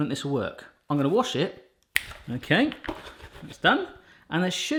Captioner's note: snaps